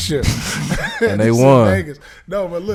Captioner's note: laughing